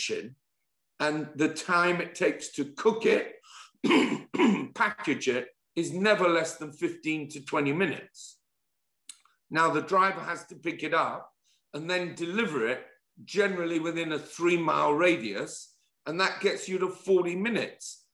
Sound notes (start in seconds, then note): 3.8 cough